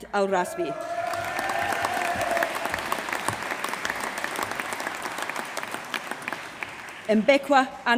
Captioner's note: applause